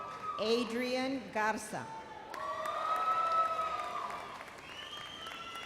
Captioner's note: immense cheering